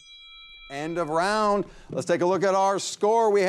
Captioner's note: bell rings